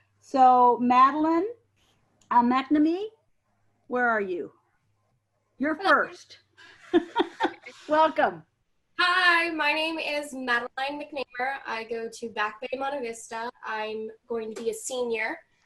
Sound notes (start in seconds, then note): 6.6 laughing